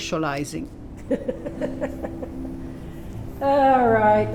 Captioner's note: laughs